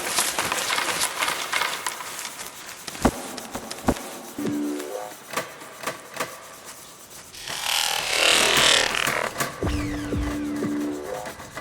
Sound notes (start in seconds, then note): 7.3 vibrating noise